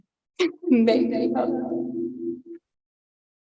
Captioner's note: voices echoing